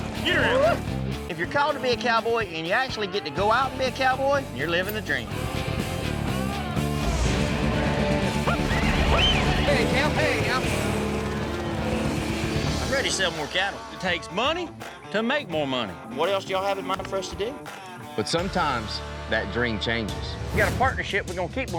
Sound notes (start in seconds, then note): 8.4 whistles